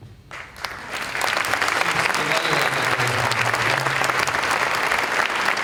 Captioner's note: applause